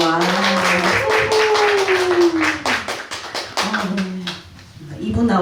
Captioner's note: applause and cheers